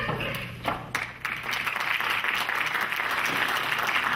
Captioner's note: clapping